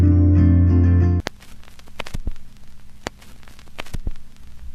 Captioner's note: static